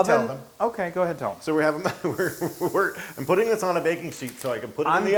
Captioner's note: laugh